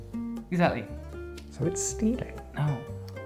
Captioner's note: whispers